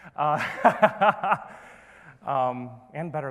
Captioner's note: laughing